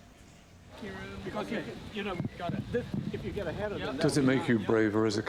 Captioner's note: background chatter; voiceover